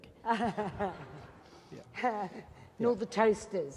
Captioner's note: laughing